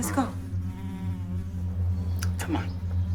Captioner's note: fly buzzing